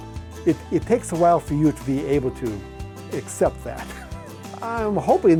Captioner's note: chuckles